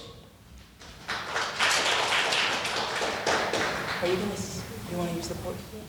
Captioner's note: audience applauding